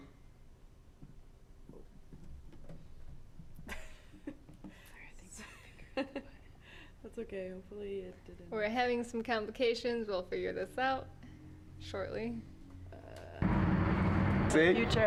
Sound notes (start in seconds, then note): 4.8 whispering, giggling